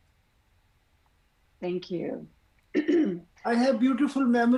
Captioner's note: clears throat